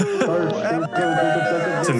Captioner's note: laughs